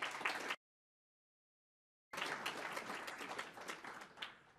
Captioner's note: applause